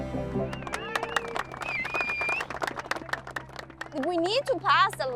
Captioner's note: clapping